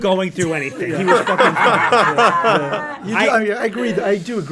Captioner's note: all laugh